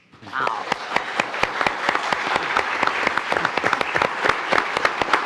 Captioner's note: attendees applauding